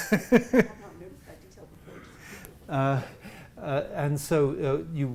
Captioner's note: laughs